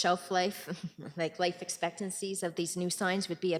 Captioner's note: chuckling